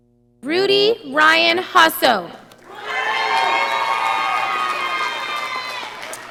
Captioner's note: audience applauding